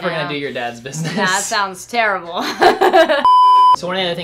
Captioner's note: laughs